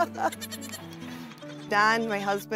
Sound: laughs

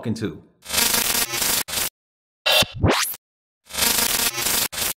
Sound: buzzing sound

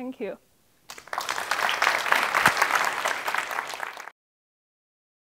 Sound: audience applauding

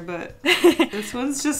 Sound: laughs

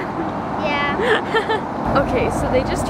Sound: laughs

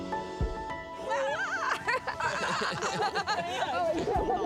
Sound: laughing

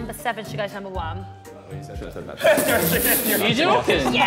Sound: Sidemen laughing

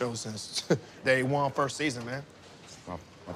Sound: chuckles

